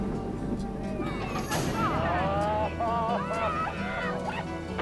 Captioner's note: crowd cheers